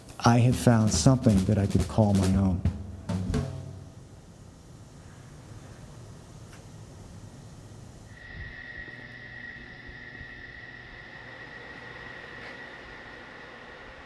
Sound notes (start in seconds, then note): 8.5 machinery humming